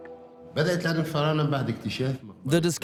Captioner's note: Arabic dubbed in English